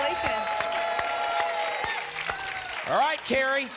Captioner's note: applause and cheering